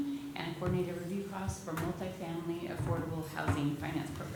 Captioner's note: none